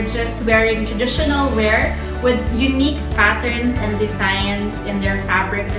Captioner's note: none